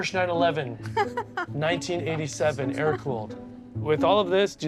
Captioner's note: laughing